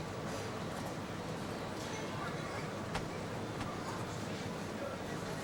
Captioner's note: people chattering